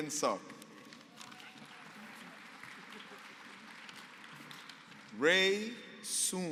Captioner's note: applause